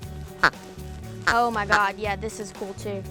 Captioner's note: squeaking